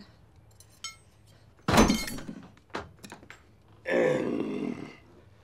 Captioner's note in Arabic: صوت الزجاجة